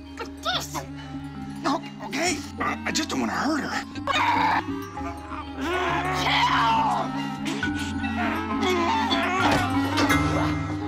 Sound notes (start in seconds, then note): 4.1 <i> growling</i>; 7.7 <i> growls</i>